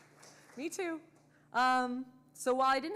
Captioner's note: audience clapping